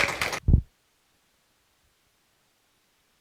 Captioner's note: applause